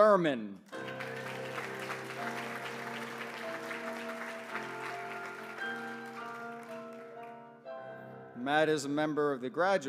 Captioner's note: applause